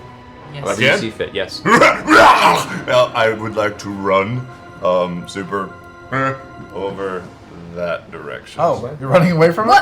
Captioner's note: battle cry